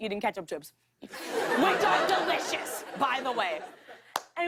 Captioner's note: laughter